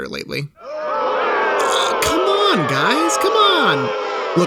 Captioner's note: crowd booing